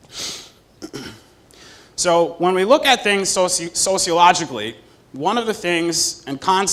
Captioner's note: cough